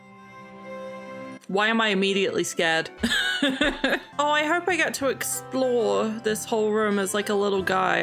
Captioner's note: laughs